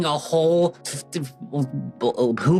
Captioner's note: stutters